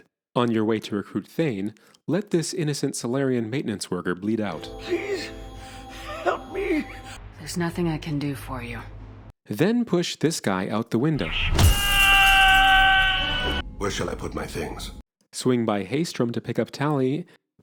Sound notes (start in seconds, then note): 11.3 screams